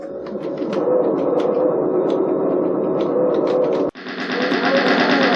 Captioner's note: gunfire sounds